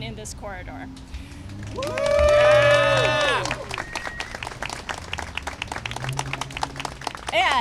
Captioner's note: cheering and applause